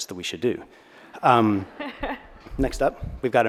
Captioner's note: audience laughs